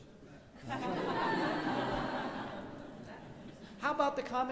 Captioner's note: laughing